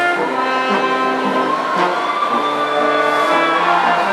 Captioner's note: audience cheering